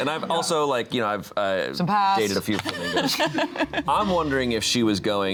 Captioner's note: laughs